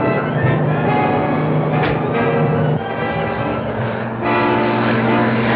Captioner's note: punches; suspenseful music